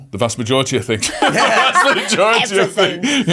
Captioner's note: everybody laughing